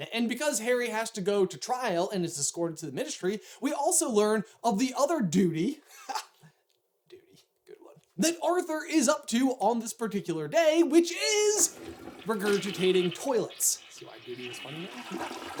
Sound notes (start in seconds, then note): 6.0 giggles; 11.1 flushing sound